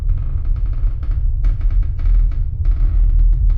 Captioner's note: floor creaking